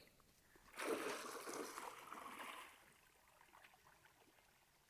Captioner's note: water splashing